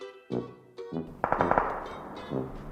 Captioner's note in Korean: 탕탕탕